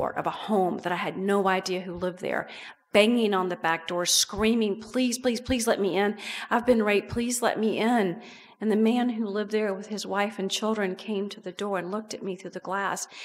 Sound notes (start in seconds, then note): none